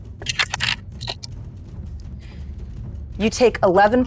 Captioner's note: dice rattling